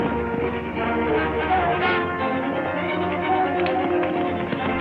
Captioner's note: galloping horses